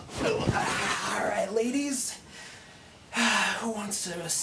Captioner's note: Randall grunts; sighs